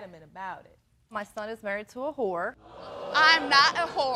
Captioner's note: audience gasps